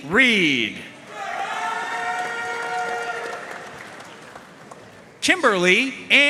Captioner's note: audience cheering and applauding